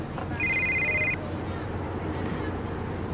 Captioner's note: phone ringing